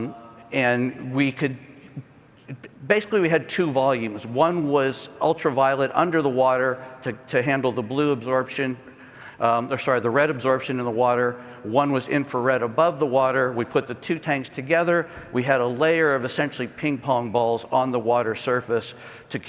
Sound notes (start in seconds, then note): none